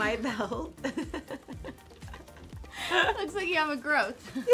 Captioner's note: laughs